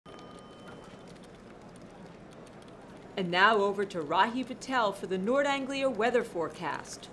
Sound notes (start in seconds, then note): 0.1 office sounds